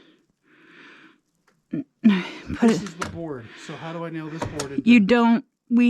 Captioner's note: grunting